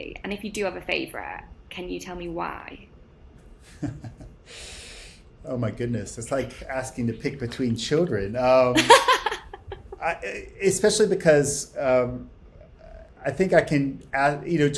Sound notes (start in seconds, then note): 3.7 laughs; 8.7 laughs